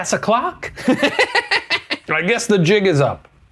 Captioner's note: laughing